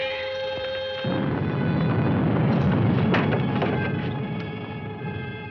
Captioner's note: thunder